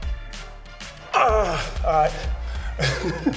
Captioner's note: groans; laughs